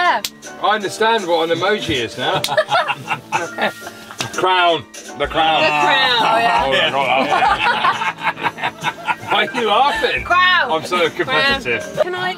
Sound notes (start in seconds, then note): 6.6 laughter